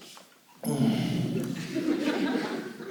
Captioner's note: sighs